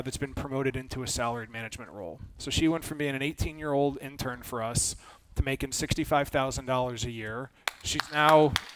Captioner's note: claps